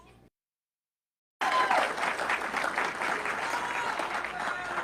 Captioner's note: audience clapping